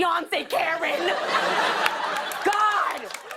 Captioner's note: laughter